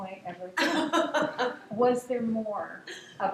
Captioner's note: laughing